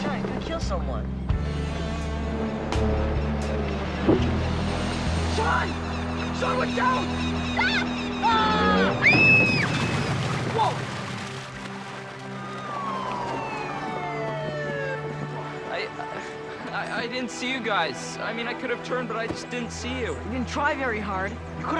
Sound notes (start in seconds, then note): 6.2 screams; 9.6 police siren